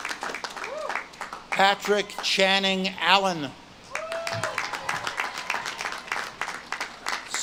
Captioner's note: audience claps and cheers